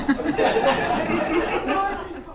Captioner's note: laughter